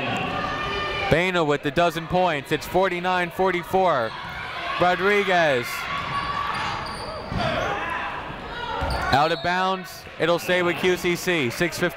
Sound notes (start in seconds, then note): 6.1 people shouting in the crowd